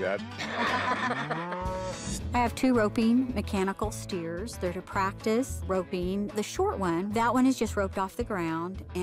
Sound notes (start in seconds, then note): 0.3 laughter; 1.3 cow moos